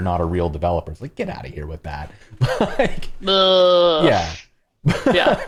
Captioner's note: laughter